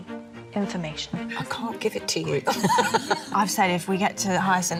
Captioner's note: laughing